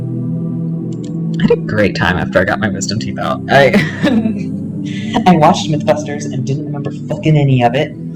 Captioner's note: laughter